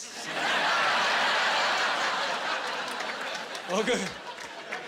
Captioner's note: laughing